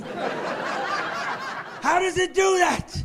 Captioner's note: laughing